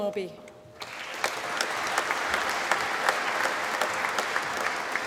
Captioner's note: applause